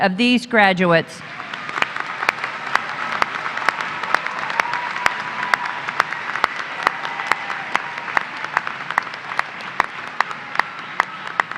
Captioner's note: applause